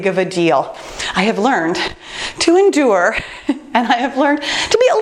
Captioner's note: laughs